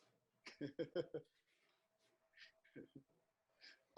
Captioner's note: laughs